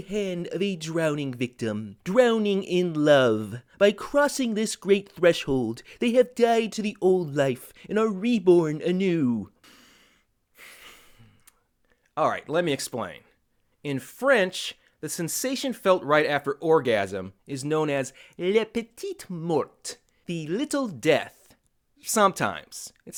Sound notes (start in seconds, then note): 10.6 sigh